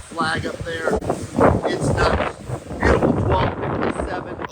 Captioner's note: wind rustling